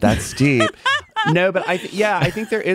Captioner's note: busy laughing